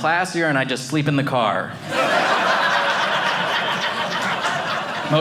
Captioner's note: audience laughing